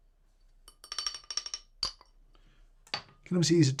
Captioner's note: Weber catch cup clinking